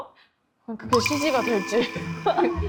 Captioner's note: sound effect: No confidence